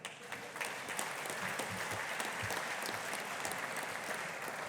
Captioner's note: audience applauding